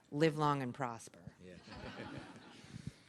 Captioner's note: laughter